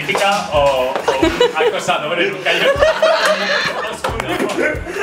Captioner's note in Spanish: risas